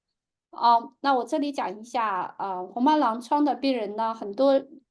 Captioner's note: speaking chinese